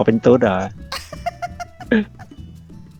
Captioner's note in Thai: หัวเราะ